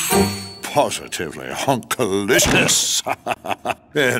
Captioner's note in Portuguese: Risos